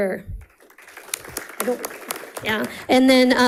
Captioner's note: audience applauding